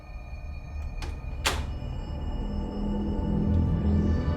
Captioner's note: door closing